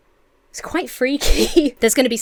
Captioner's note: Emma laughs